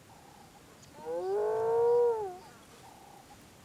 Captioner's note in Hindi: हाइना भौंकते हैं